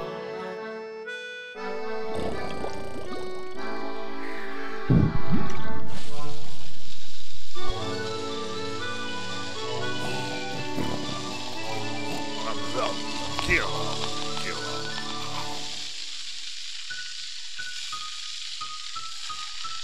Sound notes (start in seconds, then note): 4.9 thunder; 9.8 timbers snoring; 12.4 mutters angrily